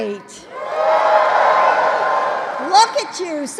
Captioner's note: applause